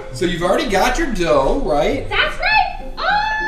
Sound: voiceover

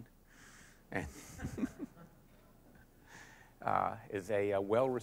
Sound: laughter

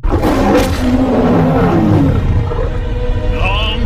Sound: mufasa roars; scar roars

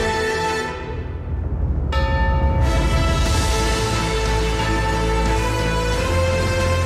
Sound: thrilling instrumental music; bell tolling

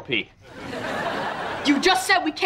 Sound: laughing

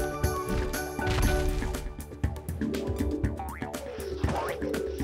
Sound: Air Condos feet thudding

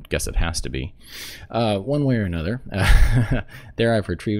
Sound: laugh

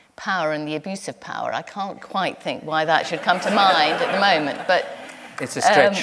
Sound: laughter

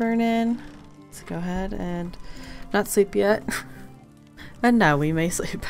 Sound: laughs

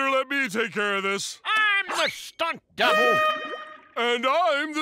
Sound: air horn blaring

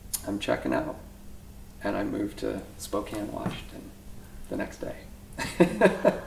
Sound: laughs

